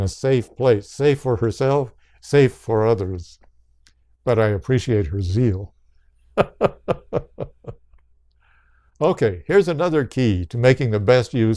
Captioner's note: laughs